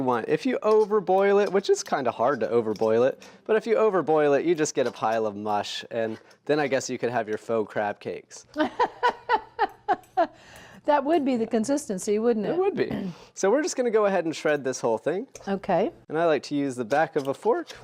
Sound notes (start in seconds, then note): 8.6 laughs